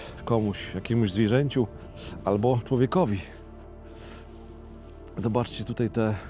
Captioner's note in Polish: parsknięcie